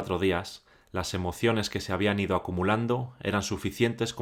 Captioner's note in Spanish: Voz en off